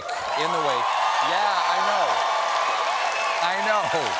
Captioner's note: cheers and applause